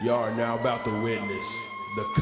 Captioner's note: sirens